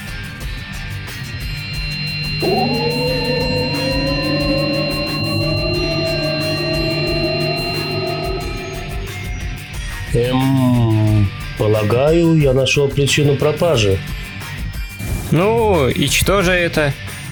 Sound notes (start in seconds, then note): 1.0 portal opening beeps; 1.2 energy bursts; 6.0 box engines whine